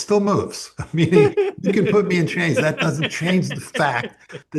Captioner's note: laughs